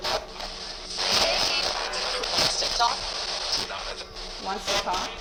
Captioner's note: spirit box voice